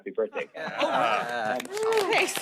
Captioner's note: applause